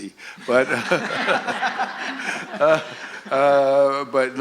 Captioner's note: laughter